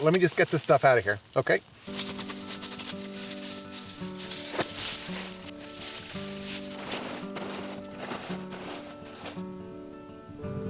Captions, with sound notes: Let me just get this stuff outta here, okay? (weeds rustling) (mellow guitar music)